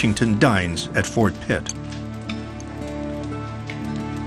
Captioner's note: silverware clinks